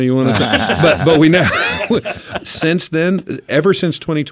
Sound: group laughs

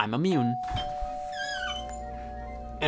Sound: doorbell ringing

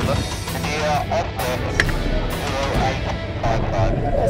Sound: radio Calls

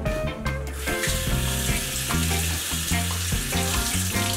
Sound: water running

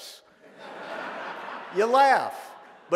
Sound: audience laughing

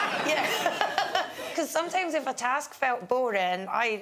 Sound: Fern laughs

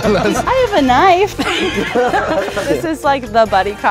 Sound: laugh

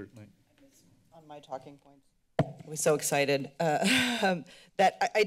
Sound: laughter

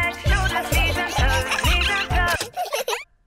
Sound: giggling; music stops

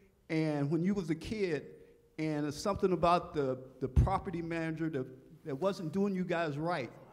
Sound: none

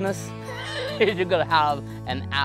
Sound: laughs

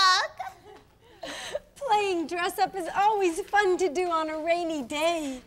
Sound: laughs

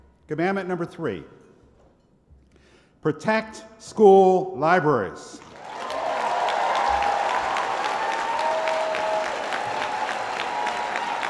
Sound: applause

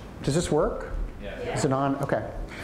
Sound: audience speaking

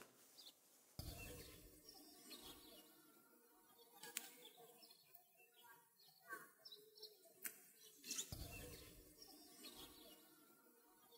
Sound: bird sounds

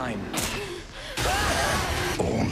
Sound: heavy breathing

